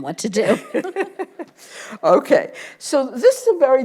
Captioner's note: laughs